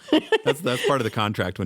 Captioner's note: both laugh